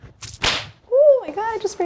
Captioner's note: whip cracks